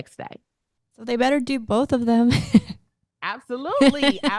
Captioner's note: chuckles